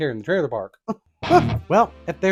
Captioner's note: heavy metal chuckle